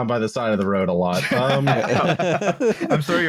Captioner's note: laughter